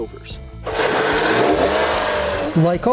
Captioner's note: engine revs